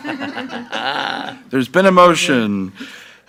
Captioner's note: laughing together